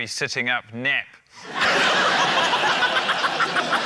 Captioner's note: laughter